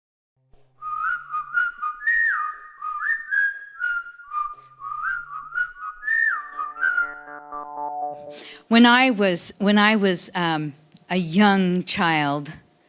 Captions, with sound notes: [whistling] [instrumental music] When I was-when I was, um, a young child,